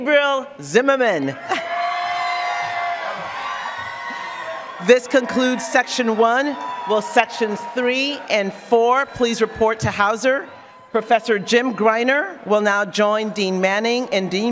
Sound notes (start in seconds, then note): 2.6 applause